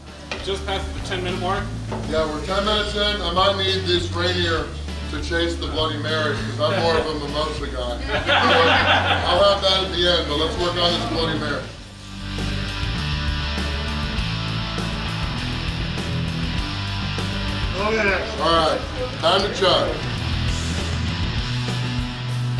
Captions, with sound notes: - Just passed the 10 minute mark. - Yeah we're 10 minutes in, I might need this Rainier to chase the bloody Mary 'cause I'm more of a mimosa guy. (laughing) I'll have that at the end but let's work on this bloody Mary. (rock music) - Look at this! - All right, time to chug. (rock music)